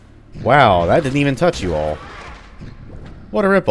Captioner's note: whack